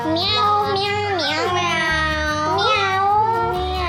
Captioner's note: meowing